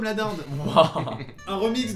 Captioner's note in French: Rires légers